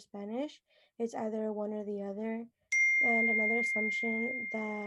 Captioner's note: phone ding